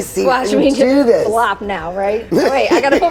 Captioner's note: laughs